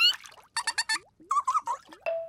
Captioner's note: both fish laughing